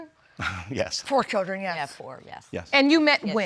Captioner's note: chuckles